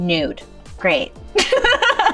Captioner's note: laughs